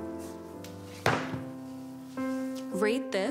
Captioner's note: book thudding